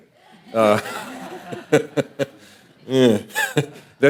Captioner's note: audience laughing